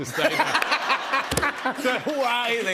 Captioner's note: laughter; cheers and applause